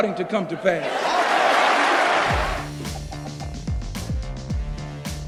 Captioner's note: cheers and applause